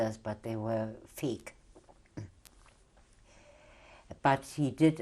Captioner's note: pauses for 3 seconds